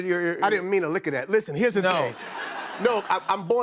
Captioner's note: laughter